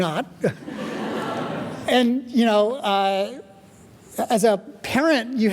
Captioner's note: chuckling; audience laughing